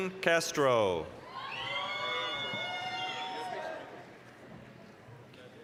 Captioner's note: applause, cheering